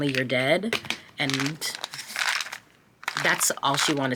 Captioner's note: vitamins rattling